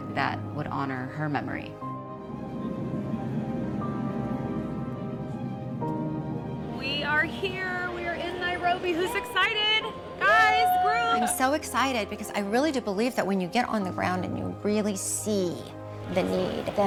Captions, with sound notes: that would honor her memory. (tranquil music) - We are here, we are in Nairobi, who's excited? Guys, girls? (cheering) - I'm so excited because I really do believe that when you get on the ground and you really see the need,